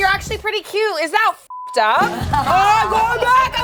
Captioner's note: beep